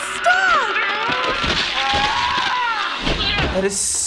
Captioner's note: loud cracking and squelching; man 2 yells